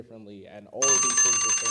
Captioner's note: alarm rings